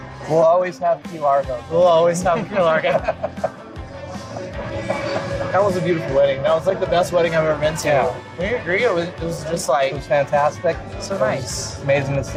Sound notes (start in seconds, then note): 4.9 laughter